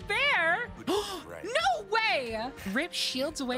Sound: gasp

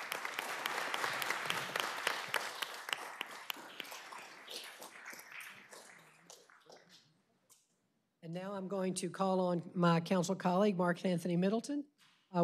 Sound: applause

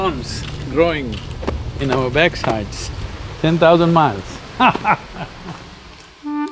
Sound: laughs

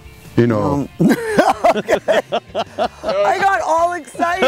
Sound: laughing

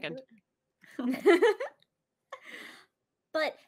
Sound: laughs

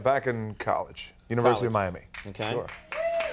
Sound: scattered accolades

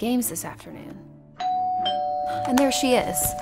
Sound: door bell

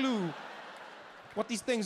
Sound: audience laughing

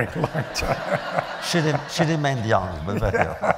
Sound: laughter

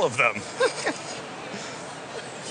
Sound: laughing

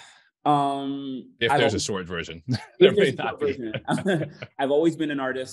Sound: chuckles

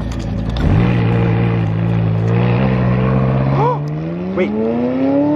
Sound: car engine revs; gasps

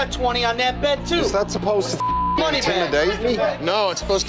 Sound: beep

